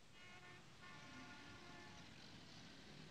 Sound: traffic sounds

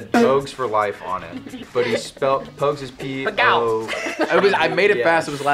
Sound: murmurs

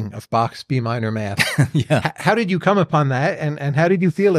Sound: laughs

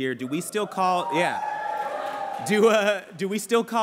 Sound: cheering

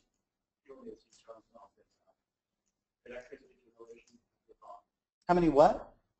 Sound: faintly speaks

